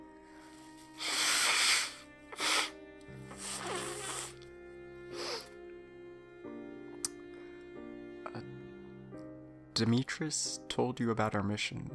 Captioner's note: SFX: nose blow